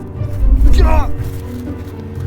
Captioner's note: grunts